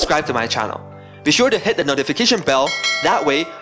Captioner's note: ding!